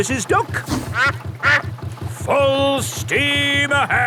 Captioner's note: quacks